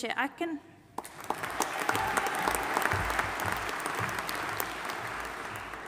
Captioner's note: audience applauding and cheering